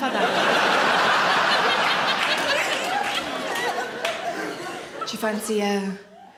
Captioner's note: audience laughing and applauding